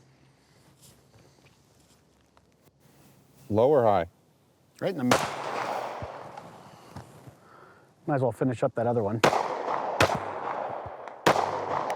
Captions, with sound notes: - Low or high? - Right in the middle. (gun bangs) - Might as well finish up that other one. (guns banging)